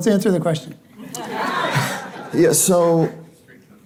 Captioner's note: audience laughing